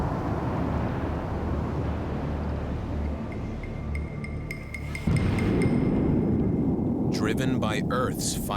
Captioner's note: eruptions echo